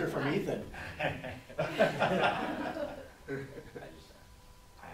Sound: laughing

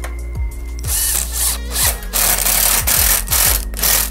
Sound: drill revs

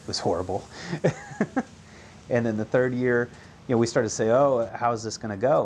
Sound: laughing

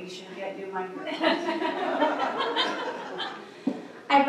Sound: laughter

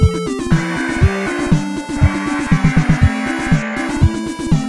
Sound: mechanical sound

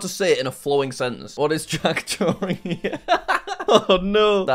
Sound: laughs

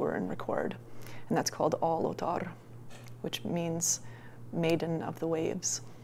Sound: non-english

